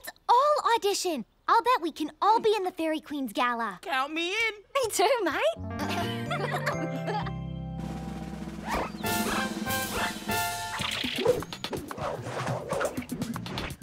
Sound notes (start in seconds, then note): 5.8 giggling